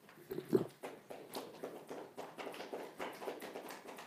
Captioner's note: gallery applauds